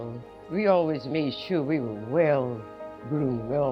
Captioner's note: voiceover